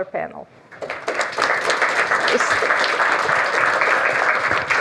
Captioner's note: applause